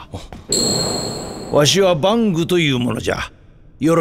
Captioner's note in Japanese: バング